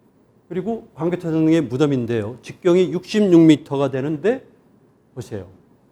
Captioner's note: speaking in Korean